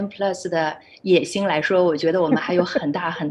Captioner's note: laughs